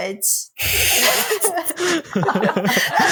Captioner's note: laughter